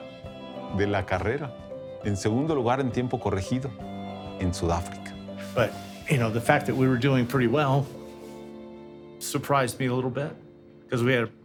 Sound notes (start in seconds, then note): 3.6 in English